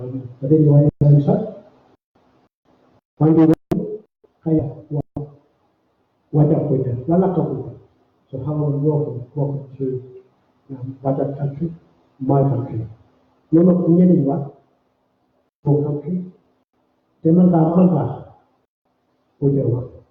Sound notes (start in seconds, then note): 4.6 speaking in Aboriginal language; 13.1 speaking in Aboriginal language